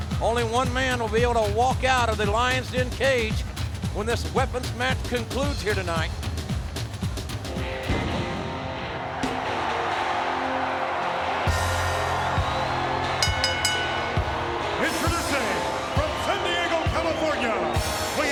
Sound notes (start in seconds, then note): 7.8 crowd cheering; 7.8 upbeat music; 13.2 bell dings